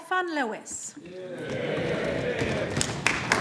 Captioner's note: applause